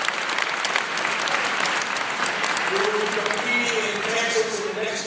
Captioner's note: applause